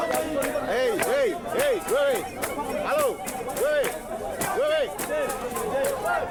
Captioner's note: speaks Swahili